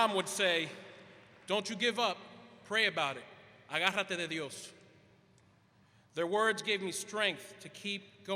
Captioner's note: quote in Spanish; Spanish